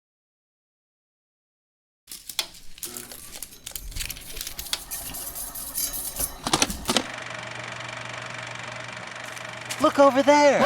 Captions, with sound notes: (Projector sounds) - Look over there!